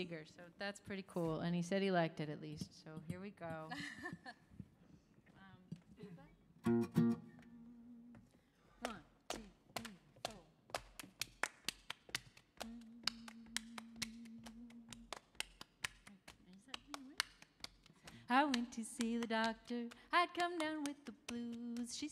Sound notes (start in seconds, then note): 3.6 giggles; 10.0 tapping rhythmically; 11.1 clapping rhythmically; 12.6 humming